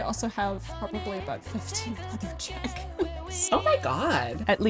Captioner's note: laughs